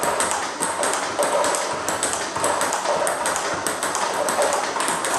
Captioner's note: ball ping pong hitting continues